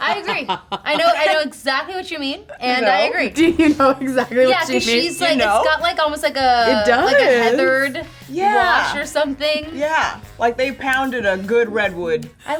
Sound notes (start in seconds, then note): 3.4 laughing; 4.6 bell chiming